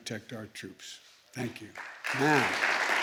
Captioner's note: applause